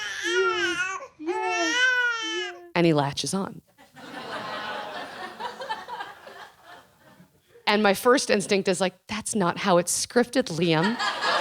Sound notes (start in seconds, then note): 3.8 laughing